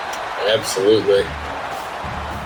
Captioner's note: crowd Noises